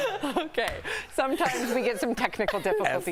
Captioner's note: laughter